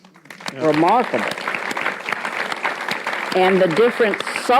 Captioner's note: audience applauds